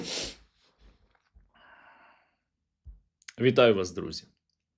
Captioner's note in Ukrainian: сопіння